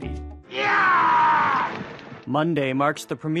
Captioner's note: shouting